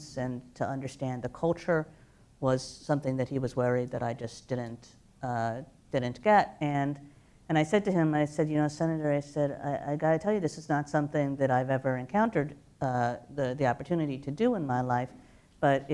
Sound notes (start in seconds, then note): none